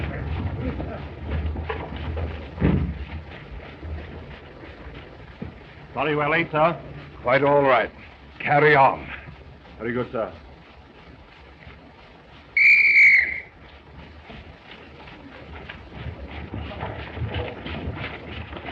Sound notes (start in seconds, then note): 12.5 blows whistle